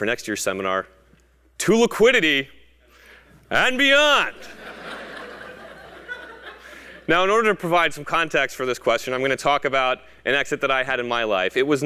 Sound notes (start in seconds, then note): 4.6 laugh